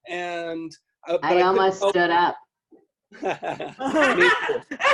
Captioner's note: laughter